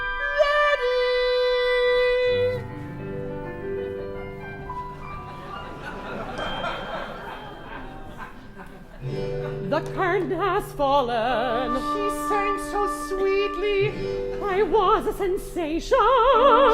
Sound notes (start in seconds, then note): 0.3 client in falsetto; 11.8 client in falsetto